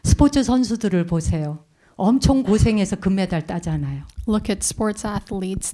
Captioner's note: speaking in Korean